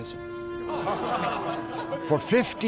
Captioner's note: <i> laughter</i>